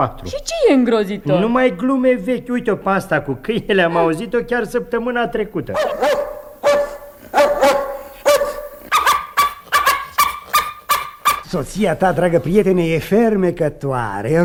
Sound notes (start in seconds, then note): 5.7 dog barking